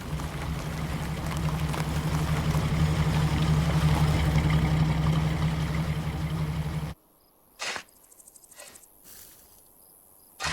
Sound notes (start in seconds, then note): none